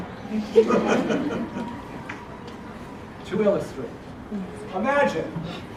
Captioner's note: laugh